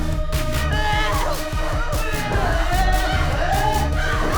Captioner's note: all screaming